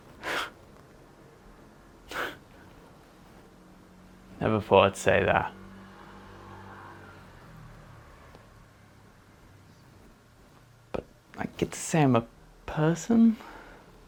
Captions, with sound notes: [laughs to self] Never thought I’d say that but I get to say I’m a person